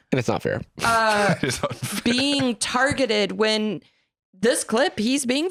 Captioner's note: laughing